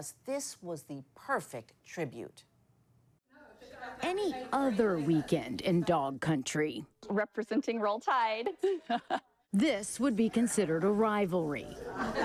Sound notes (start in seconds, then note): 8.5 laughs